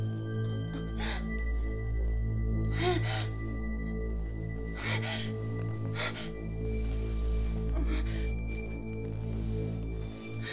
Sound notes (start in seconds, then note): 2.7 gasping for air